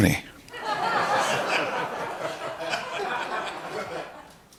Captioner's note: laughter